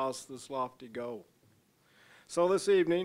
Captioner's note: none